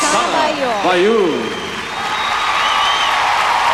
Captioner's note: cheering, applause